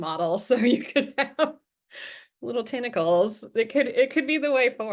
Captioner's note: chuckles